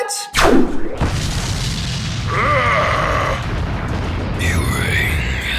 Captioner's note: gun fires; ship explodes